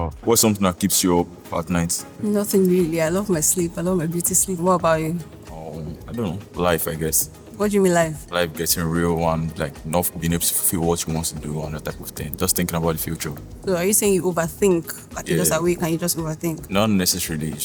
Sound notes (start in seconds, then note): none